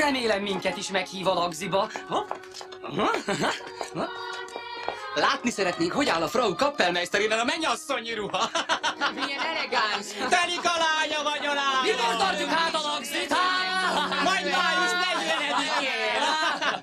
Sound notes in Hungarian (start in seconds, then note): 3.0 férfi gunyoros nevetése; 8.4 gúnyos hahotázás